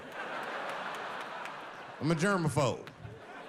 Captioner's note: audience laughing